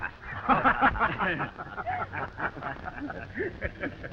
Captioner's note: all laughing